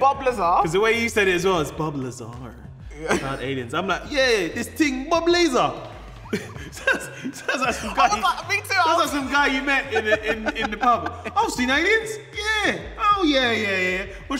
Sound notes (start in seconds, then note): 6.2 both laughing; 10.3 speaks in a Cockney accent